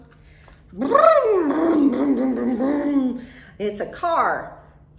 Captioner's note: imitates car revving